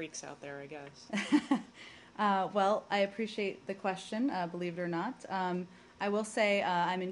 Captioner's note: laughter